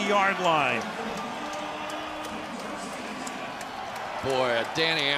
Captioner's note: pa announcement